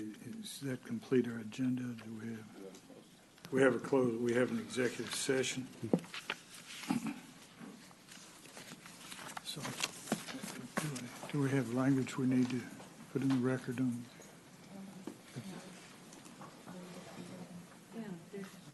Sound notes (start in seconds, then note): 7.3 rustling of papers; 14.2 off mic